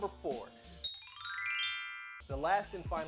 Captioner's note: magical chiming